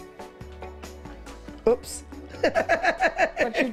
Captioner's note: laughs